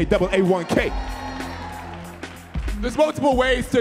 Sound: audience cheering

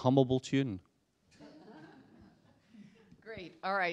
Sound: laughter

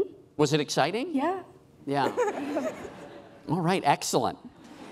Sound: laughing

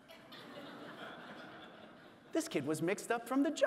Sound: audience laughing

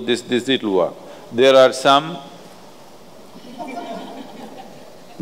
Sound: laughter

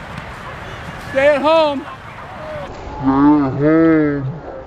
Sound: audience yelling

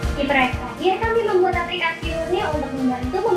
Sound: non-english speech

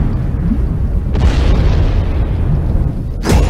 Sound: explosion

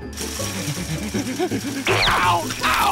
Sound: panting

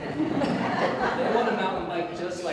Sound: audience Laughter

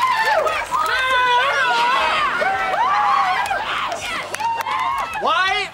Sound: cheering

